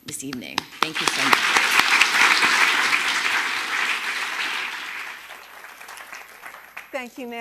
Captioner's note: audience clapping